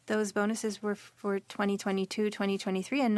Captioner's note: speaking French